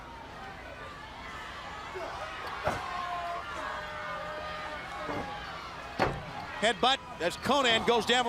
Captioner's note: crowd chatter